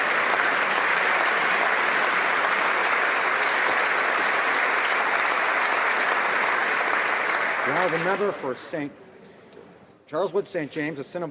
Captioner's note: applause